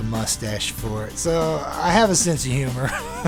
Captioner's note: laughter